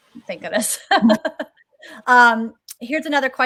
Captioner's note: laughter